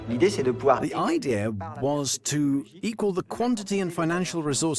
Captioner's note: voiceover